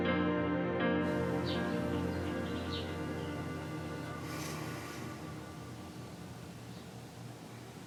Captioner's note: birds chirping; James sighs